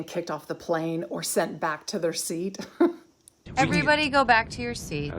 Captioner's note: giggles